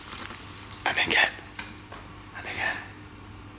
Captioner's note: soft banging